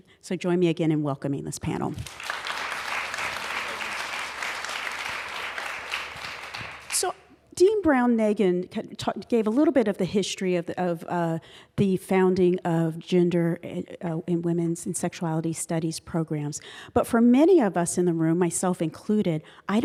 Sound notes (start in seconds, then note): 2.0 applause